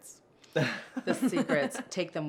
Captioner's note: laughter